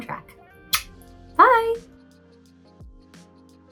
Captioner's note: lips smack; soft upbeat music